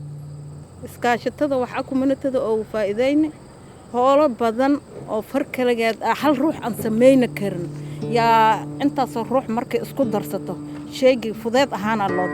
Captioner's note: non-english speech